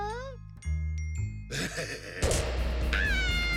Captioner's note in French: rire bizarre